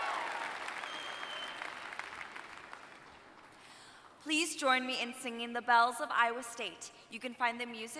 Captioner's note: applause